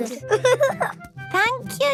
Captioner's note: giggling